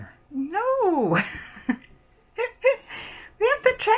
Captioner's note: laughing